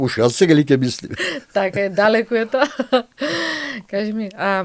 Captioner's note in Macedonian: смеа